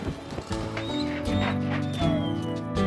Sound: dancer whines

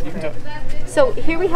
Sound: crowd chattering

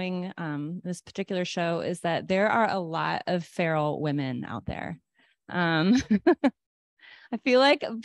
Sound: laughter

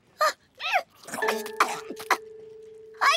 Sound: coughing

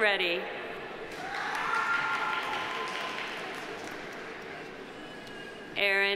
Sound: audience applauding; audience cheering

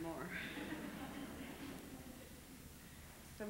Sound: laughter

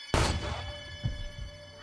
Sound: gun firing

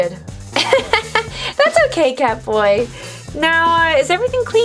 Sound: laughing

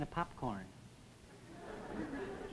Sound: audience laughs

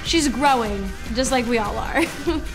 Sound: chuckles

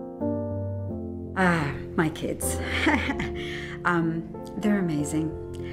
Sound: chuckles

